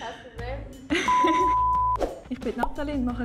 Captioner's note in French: Bip